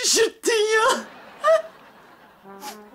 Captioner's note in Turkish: Gülme efekti